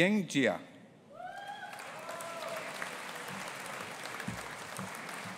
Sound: audience applauding

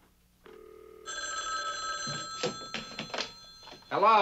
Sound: telephone ringing

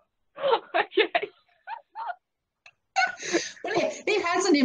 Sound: laughing

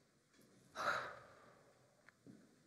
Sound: breathing

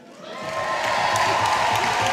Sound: audience cheers

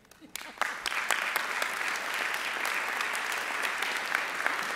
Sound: audience applauding

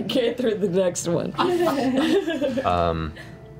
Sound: laughter

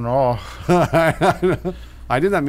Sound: laughing

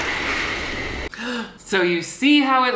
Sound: gasps

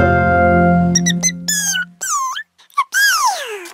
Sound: little Yellow Chickadee chirps

